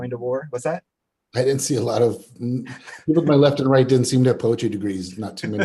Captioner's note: chuckles